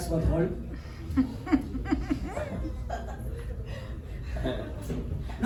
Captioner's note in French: rires